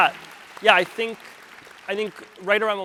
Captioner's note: audience applauds